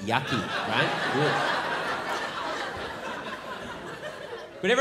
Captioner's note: crowd laughs